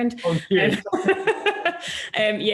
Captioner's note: laughs